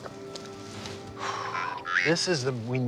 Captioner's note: sighs